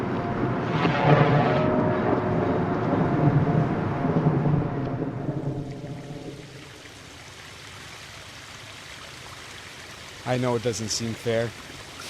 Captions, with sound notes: [supernatural whoosh] [thunderclap] I know it doesn't seem fair.